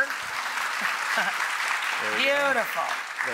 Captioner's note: audience applauds; chuckles